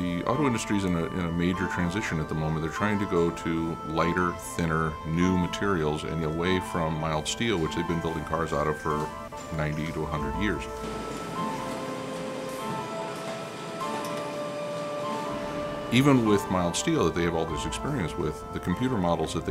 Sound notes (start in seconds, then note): 10.9 machinery Noise